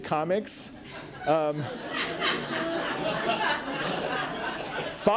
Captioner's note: audience laughs